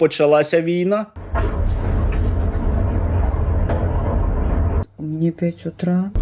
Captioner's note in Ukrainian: вибух